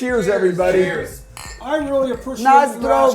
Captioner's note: glass clicking